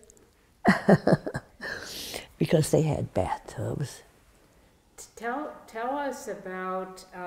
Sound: laughs

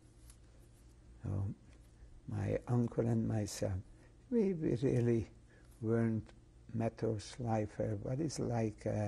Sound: german

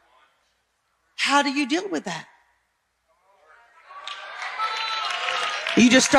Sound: audience cheering

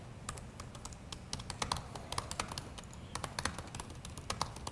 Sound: keyboard typing

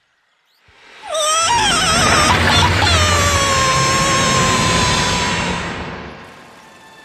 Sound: screaming loudly

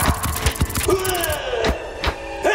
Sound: bones clap; scorpions scurry; bones clap

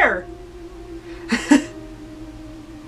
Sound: chuckles

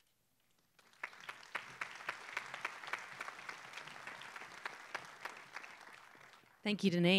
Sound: applause

